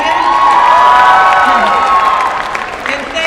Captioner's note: applause